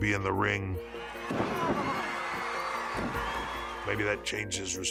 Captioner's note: audience cheering